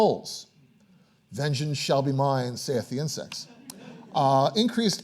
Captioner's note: audience laughing